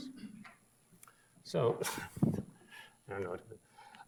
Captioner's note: chuckles